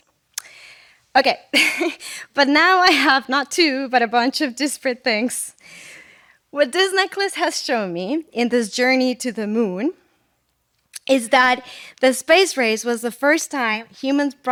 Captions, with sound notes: Okay. (laughter) But now I have not two, but a bunch of disparate things. What this necklace has shown me in this journey to the moon is that the space race was the first time humans